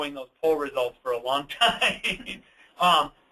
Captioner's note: laughs